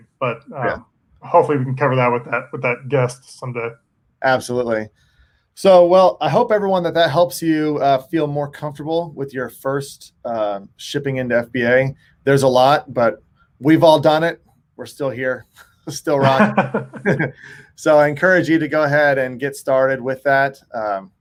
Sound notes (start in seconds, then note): 15.8 chuckles